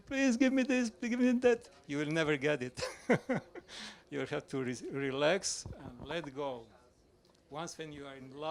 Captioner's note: laughs